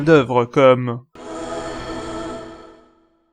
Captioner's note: "New car" sound effect in Gran Turismo 4